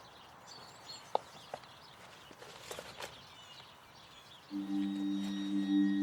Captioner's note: paper shuffling; mysterious music